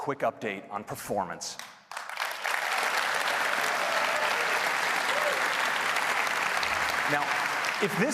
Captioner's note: applause